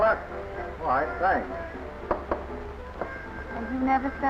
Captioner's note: knocking